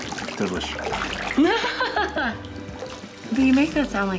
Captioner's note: laughs